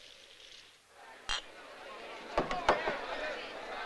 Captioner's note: indistinct chatter